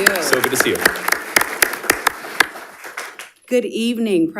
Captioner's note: audience applauding